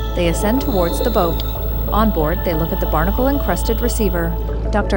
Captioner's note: scuba gear hissing